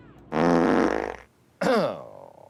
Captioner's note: farts